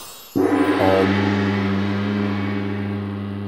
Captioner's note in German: Gong